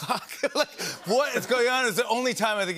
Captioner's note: laughter